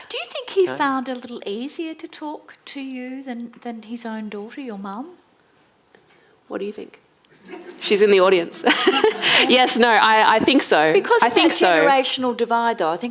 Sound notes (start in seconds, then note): 8.7 audience laughing